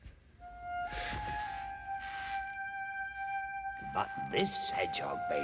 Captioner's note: creaking